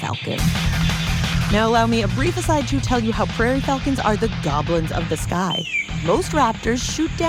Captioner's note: none